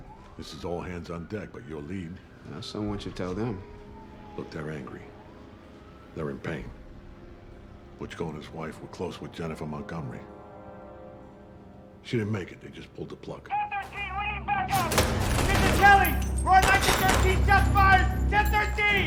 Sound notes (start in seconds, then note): 13.4 officer over radio